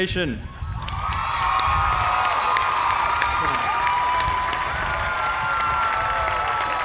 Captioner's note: cheers and applause